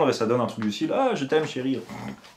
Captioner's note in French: ronflements